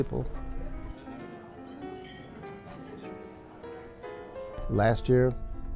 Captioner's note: light piano music; soft conversation